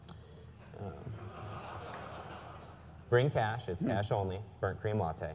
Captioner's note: laugh